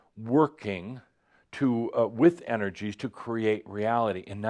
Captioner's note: none